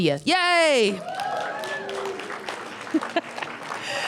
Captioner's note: cheers and applause; laughter